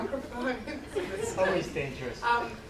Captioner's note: laughing